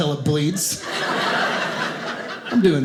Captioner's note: audience laughing